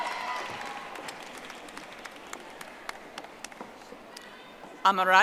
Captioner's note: audience applauding